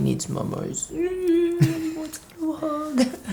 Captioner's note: whines